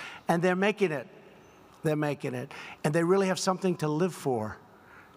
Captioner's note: none